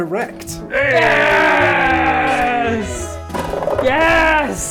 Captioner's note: celebration sounds